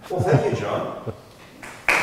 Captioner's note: claps